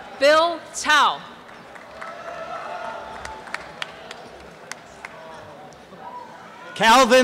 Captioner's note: applause and cheering